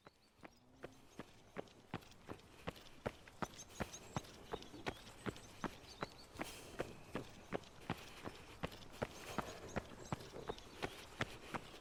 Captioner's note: running footsteps